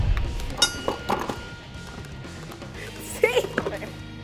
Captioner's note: ding